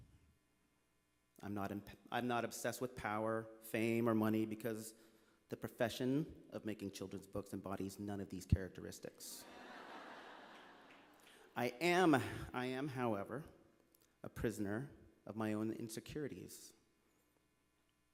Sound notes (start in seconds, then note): 9.4 laughter